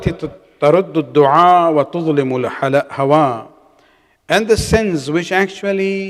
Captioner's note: arabic